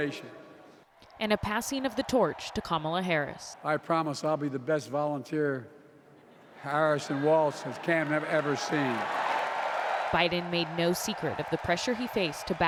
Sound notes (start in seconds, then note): 10.0 applause; 10.0 cheering